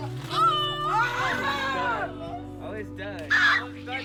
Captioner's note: boys shouting